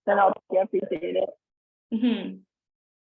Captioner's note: audio distorts